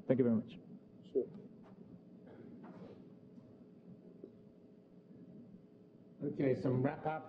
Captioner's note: pause